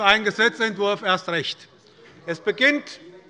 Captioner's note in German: Heiterkeit bei der SPD